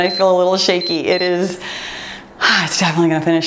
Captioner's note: timer beeps